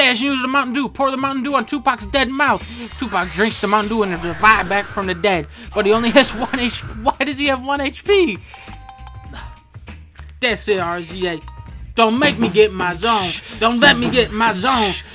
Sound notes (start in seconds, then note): 12.9 dunkey beatboxes in the background